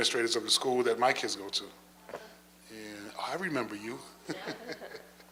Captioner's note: laughs